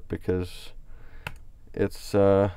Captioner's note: types on keyboard